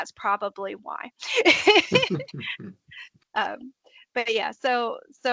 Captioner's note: laughing